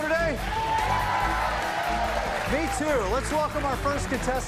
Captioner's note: cheers and applause